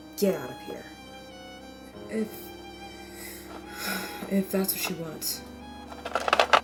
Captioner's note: sigh